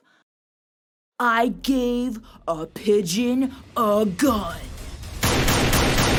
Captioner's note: gunshots